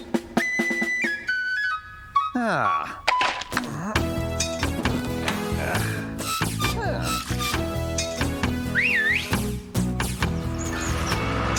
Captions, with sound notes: AH! MM-HMM. AHH. ( Gate Squeaking ) AHH! ( Whistles )